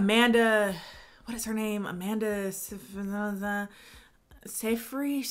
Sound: mumbles

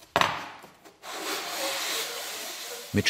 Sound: grinding noises

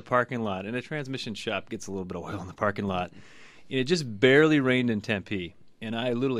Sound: laughs

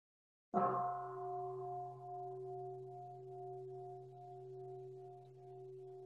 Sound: bell

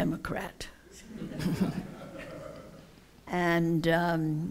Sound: laughter

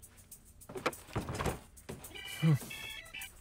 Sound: door opens

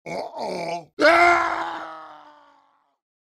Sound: dying Scream

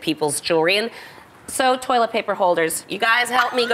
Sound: laughter

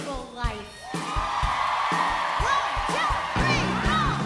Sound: crowd cheers

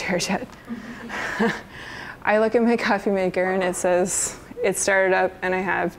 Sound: chuckles

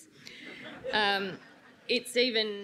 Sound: audience laughs

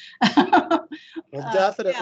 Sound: laughing

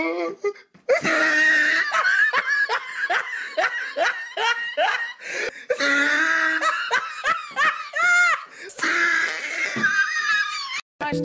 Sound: hysterical laughter x2

